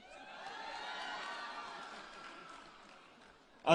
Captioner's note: applause and Cheering